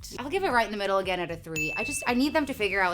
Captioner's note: bell dings